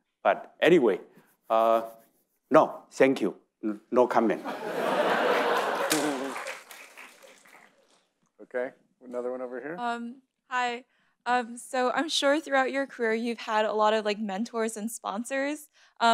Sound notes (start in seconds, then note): 4.5 audience laughing and clapping